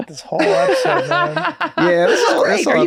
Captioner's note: laughs